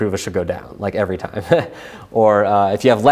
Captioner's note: chuckles